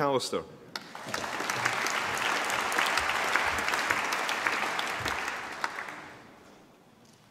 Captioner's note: applause